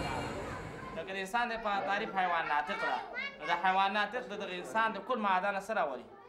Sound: speaks in foreign language

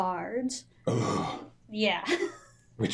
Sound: grunts in disgust

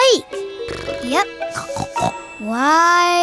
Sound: snoring

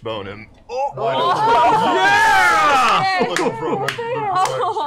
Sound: cheering

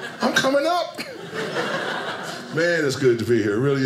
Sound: audience laughing

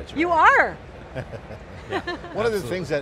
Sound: laughs

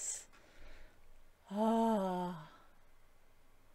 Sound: blissful sigh

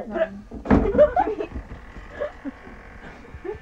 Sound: laughing

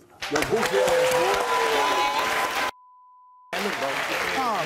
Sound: applauding

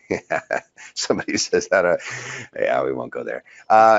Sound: laughs

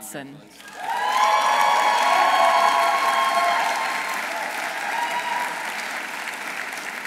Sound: audience applauding; audience cheering

